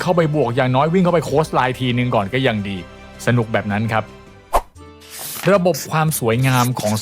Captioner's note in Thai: เสียงสูดหายใจ